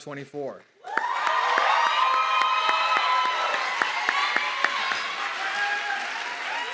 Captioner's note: audience clapping and cheering